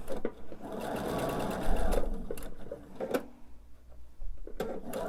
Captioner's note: sewing machine whirring